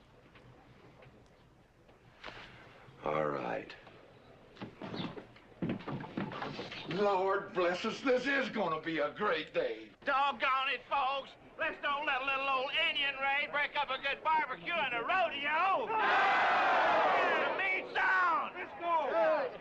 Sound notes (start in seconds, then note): 15.9 all cheering